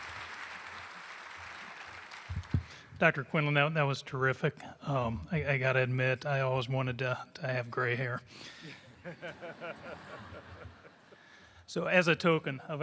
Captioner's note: applause